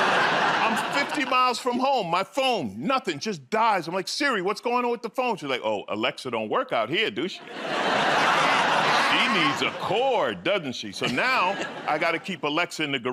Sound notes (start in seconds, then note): 7.4 laughter